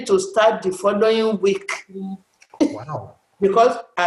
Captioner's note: laughs